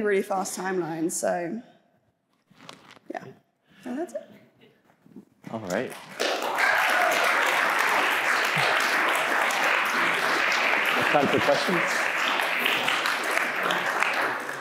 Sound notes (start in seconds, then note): 8.4 applauding